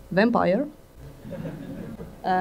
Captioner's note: laughter